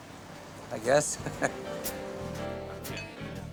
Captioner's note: chuckles; jazz playing, indistinct chatter